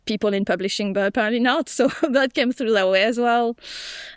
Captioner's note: chuckles